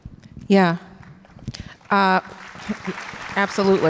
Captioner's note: audience applause